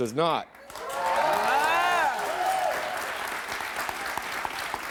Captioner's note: audience applauds